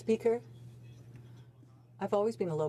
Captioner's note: speaking French